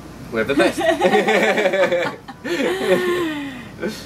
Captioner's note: laughter